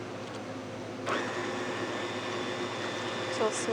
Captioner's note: mechanical whirring